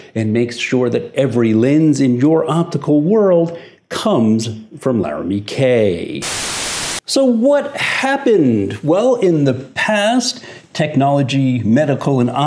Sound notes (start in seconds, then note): 6.2 static buzzing